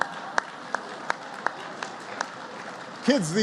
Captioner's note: laughter and applause